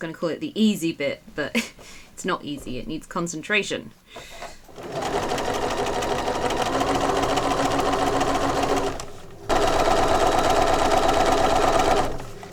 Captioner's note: sewing continues